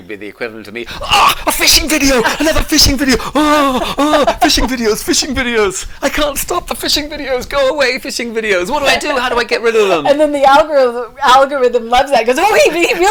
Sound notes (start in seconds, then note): 1.1 groaning; 12.0 mumbling fast